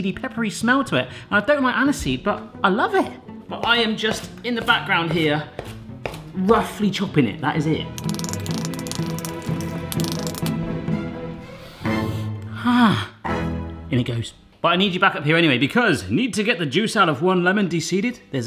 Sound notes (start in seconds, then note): 7.9 suspenseful music; 8.0 rapid chopping